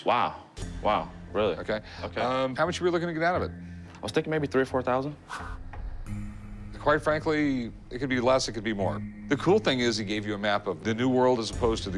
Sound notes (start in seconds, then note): none